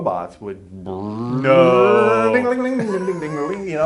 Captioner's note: mimics robots whirring; hums